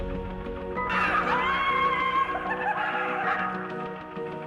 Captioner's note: cheering